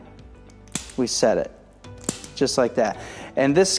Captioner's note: activator pops